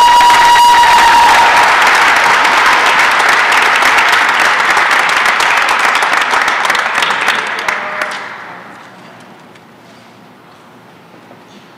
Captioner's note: applause and cheering